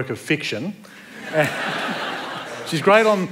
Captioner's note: laughter